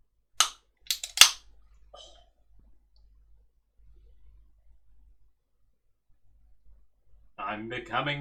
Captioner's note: sounds of can opening